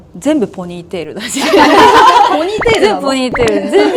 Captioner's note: laughs